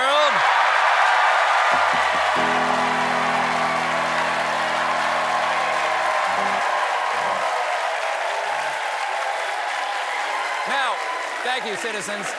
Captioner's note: cheers and applause